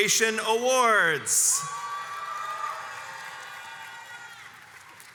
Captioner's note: crowd cheers